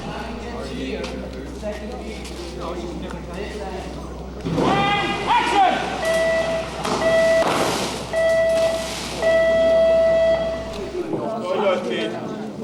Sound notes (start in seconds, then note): 6.2 beeps and explosions